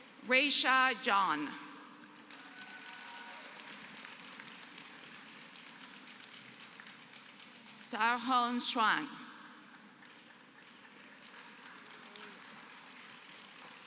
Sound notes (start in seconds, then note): 2.0 applause; 9.7 applause